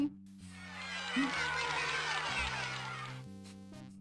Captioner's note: loud cheering